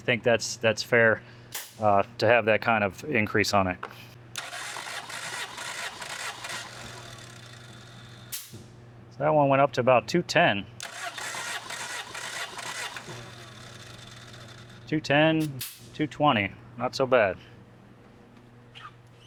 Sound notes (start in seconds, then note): 4.3 drilling